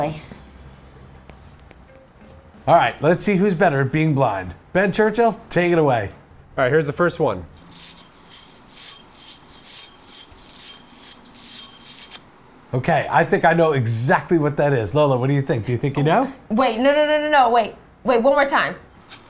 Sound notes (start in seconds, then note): 7.6 metal ringing